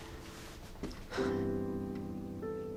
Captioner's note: sighs